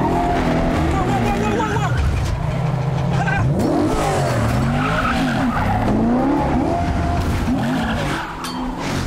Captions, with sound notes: Whoa, whoa, whoa, whoa! Ha! [tires screeching]